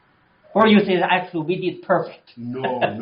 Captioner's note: laughs